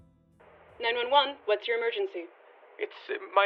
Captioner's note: phone call